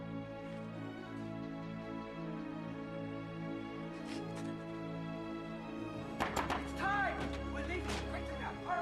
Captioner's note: knocking